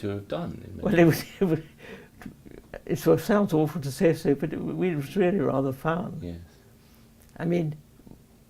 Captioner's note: laughs